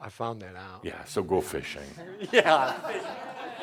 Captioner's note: more chuckles